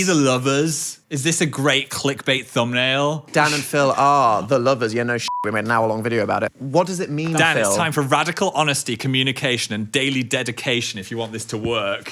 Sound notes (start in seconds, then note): 5.2 beeps